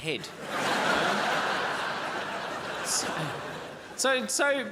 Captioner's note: crowd laughs